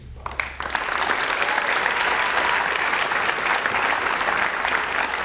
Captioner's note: audience cheers and applauds